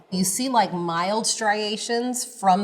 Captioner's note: none